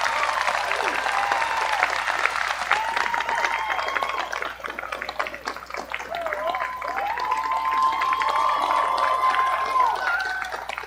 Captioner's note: appaluse